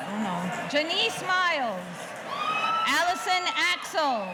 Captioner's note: audience cheering